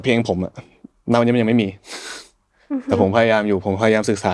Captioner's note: laughs